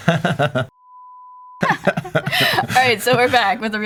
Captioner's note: high tone